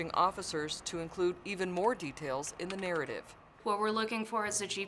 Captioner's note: sounds of computer keyboard typing